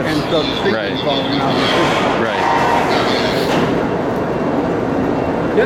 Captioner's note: construction noise, two-way radio chatter